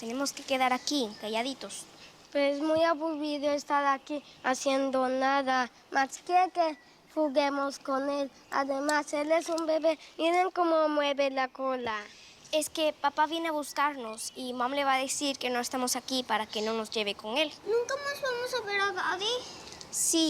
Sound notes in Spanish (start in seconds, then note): none